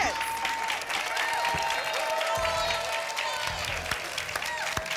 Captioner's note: applause and cheering